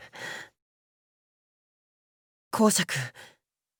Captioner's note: silence